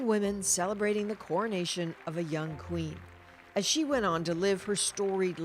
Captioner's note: applause